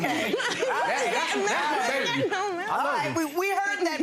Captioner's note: crowd laughing